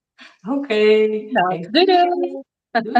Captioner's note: laughs